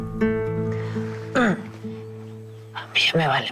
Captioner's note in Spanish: Quejido